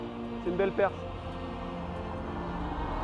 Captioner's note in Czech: mluví francouzsky